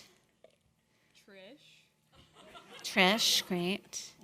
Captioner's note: audience laughing